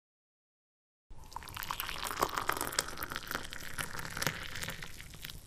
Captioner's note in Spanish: Sonido ASMR